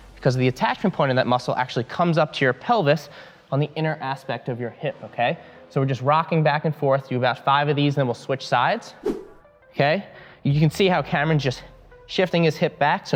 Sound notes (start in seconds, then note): 9.0 air whooshing